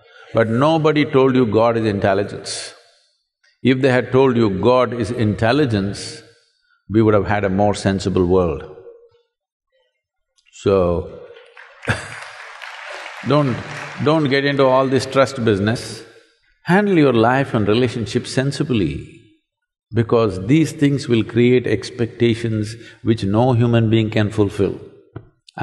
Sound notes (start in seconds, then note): 11.3 applause